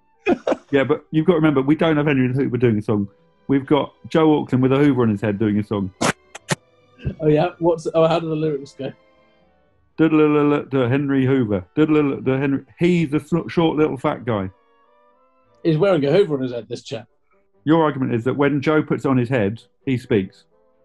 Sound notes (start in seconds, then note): 0.3 laughing; 9.7 hums melody to song